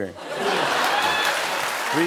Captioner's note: laughter